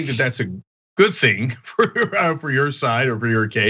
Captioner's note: laugh